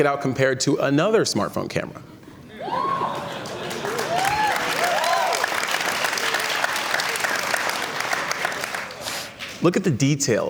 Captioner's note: cheers and Applause